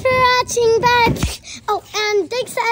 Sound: hand taps

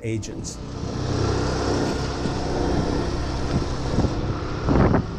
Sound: motorcycle engine revving

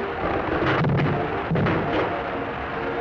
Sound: thumps

